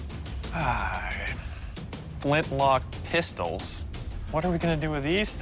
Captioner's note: sighs